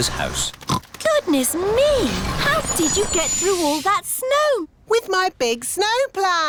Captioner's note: oinks